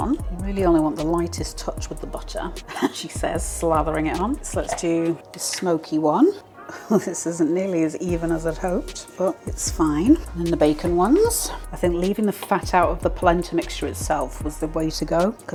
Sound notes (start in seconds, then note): 2.4 laugh